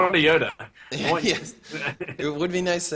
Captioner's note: laughs